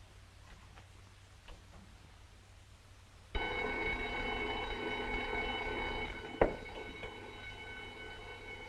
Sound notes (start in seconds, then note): 3.3 alarm ringing